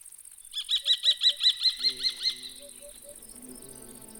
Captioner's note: bird cawing